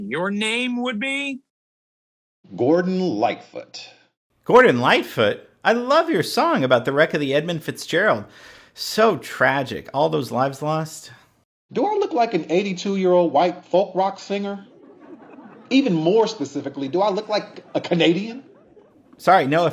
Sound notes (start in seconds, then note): 14.4 audience laughing